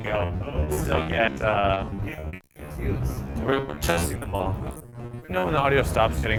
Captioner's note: crackles